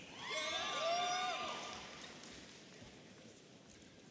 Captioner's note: audience cheering